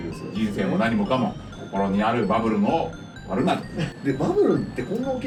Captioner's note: laughs